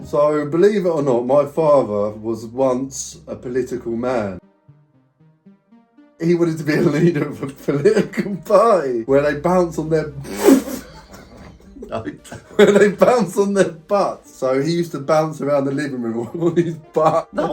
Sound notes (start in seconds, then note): 8.9 laughs; 10.3 both laughing